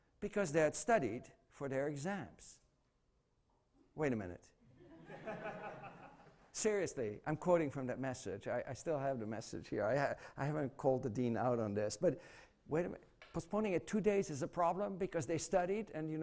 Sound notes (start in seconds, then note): 4.7 laughter